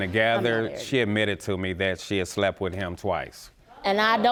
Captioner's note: audience gasps